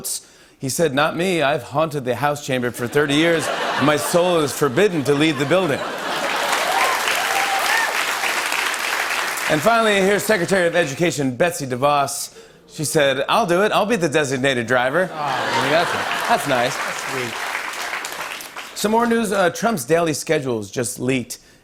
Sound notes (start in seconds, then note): 5.5 cheers and applause